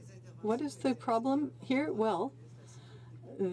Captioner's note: speaking French